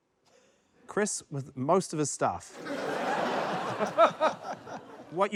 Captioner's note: laughter